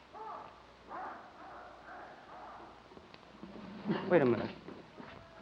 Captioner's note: men shouting in the distance